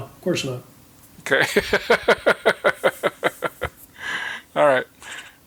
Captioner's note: chuckling